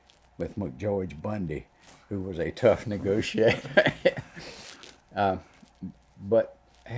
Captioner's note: laughs